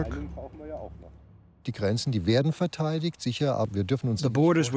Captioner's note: speaking German